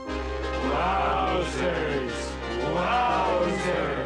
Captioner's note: chanting